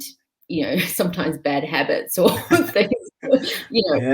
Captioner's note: laughing